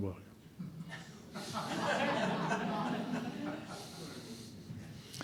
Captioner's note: audience laughing